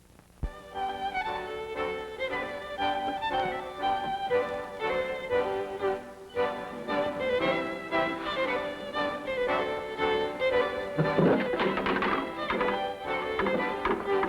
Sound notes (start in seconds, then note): 8.9 chair clattering